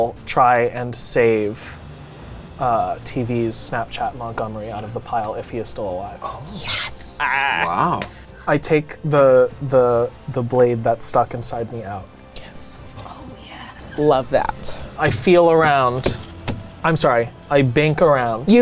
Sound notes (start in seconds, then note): 16.0 hand thumping on wood